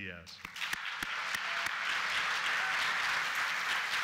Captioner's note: applause